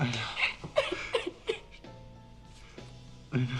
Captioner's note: crying